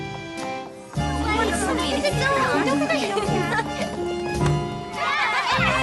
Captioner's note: chatter